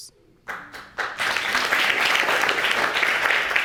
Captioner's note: audience applauding